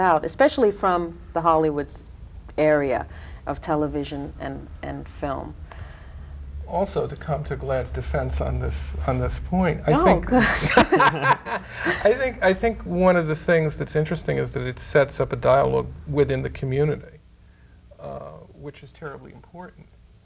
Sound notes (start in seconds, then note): 10.3 group laughing